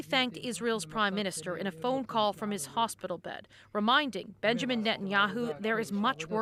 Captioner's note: speaking alternate language